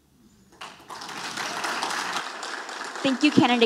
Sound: audience applauding

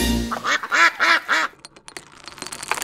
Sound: quack, quack, quack

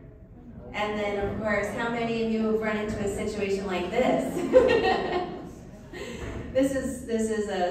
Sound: laughs

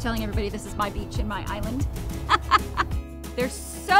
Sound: laughs

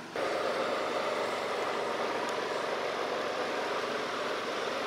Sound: engine roaring

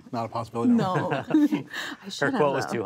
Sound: laughs

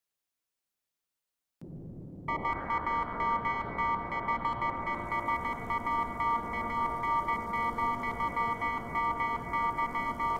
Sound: sound of dark evil code

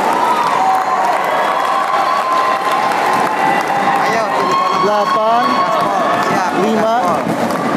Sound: applause

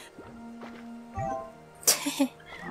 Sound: giggle

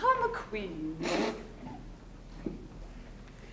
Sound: spitting

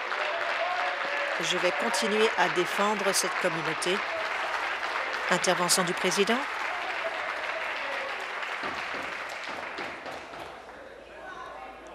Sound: applause

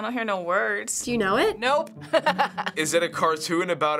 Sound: chuckles

